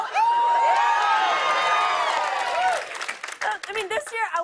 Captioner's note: cheers and applause